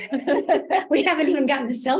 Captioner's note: laughs